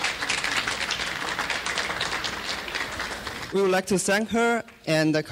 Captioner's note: clapping